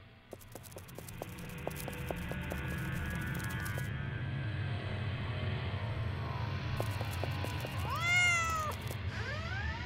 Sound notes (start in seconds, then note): 0.3 footsteps; 3.9 intense music; 6.8 footsteps; 7.8 cat meowing; 8.9 door creaks